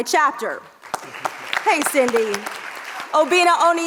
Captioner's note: audience applauds